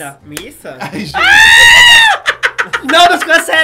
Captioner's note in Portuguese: risos